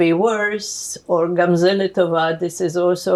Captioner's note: hebrew